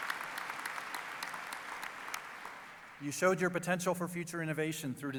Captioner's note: applause